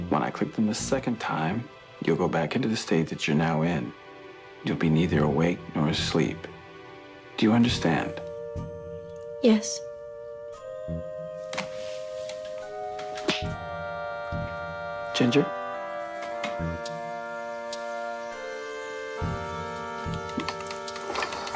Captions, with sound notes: When I click them the second time, you'll go back into the state that you're now in. You'll be neither awake nor asleep. Do you understand? - Yes. (fingers clicking) - Ginger. (dramatic music)